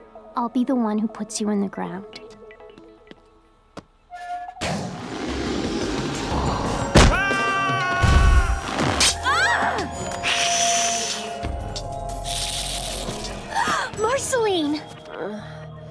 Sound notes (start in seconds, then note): 7.1 creature yells; 9.5 Marceline yells